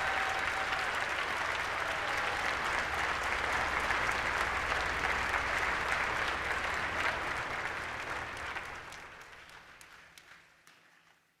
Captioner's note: applause